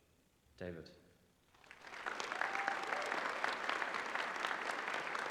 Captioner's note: applause